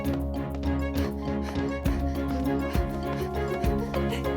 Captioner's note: heavy breathing; uplifting music